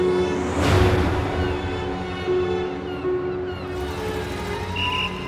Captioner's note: aeroplane whooshing; seagulls squawking; city commotion